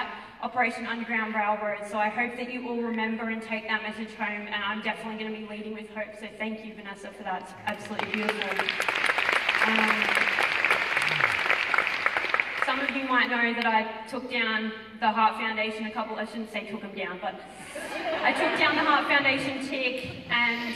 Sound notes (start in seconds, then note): 7.6 applause; 17.7 audience chuckles